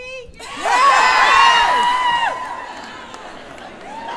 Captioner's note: cheers and applause